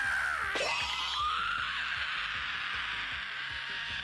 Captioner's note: screaming in terror